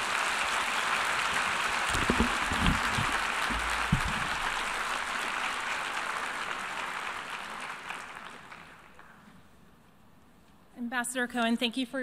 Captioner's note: applause